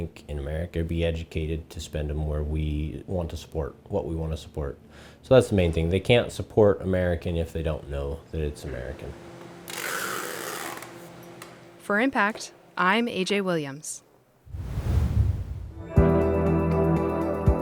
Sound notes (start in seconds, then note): 9.6 tape crackles